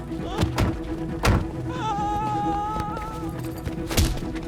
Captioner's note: dramatic music; yelling